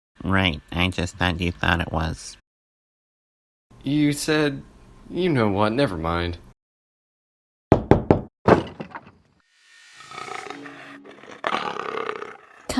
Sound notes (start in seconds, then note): 8.4 knocking; 9.9 cheetah growling